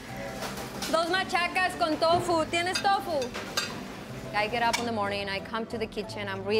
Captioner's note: speaking foreign language